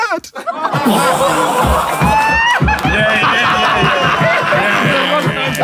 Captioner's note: people in room laughing and clapping